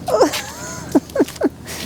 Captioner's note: laughing